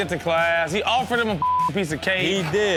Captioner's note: beep; audience laughs